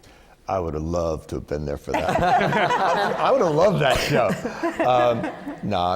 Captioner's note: laughter